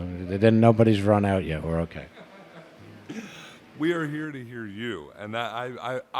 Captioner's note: laugh